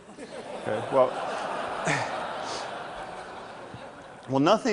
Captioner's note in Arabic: ضحك